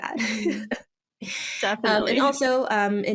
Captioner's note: laughs